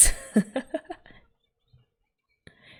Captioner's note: laughs